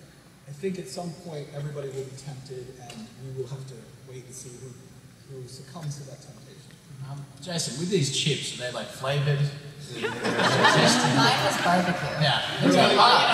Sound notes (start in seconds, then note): 10.0 laughter